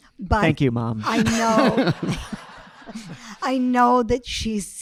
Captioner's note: audience laughing